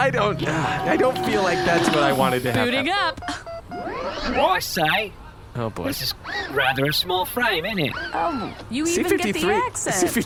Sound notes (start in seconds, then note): 3.9 with a thick cockney accent